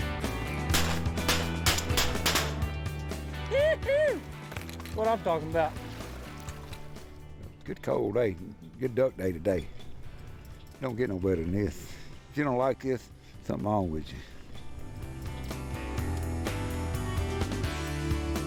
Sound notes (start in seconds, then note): 0.7 gun Firing; 14.8 lively music